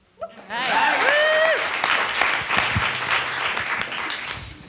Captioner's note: attendees applauding